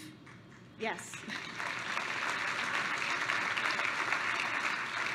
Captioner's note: applause